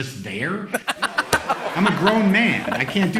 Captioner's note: laughter